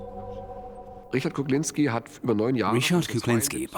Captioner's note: speaking German